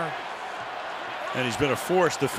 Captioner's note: cheering